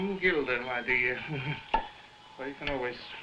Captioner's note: chuckling; loud popping